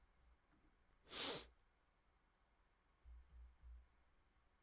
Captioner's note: sniffs